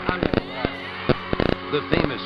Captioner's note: cheering